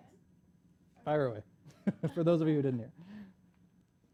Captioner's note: laughs